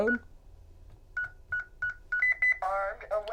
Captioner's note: beeping